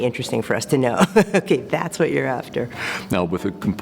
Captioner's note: laugh